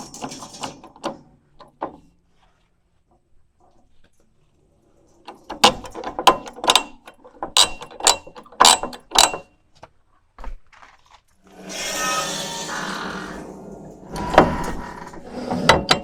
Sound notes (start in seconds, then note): 11.5 machine whirring